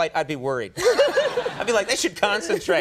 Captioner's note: both laugh